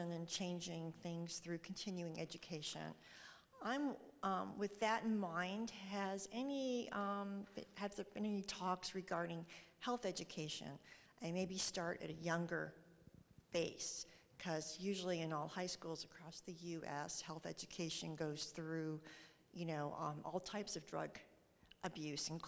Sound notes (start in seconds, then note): none